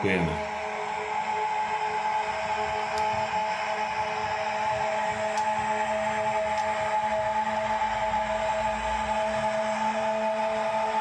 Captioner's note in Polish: Aplauz